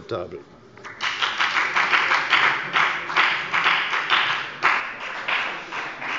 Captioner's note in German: Beifall bei der FDP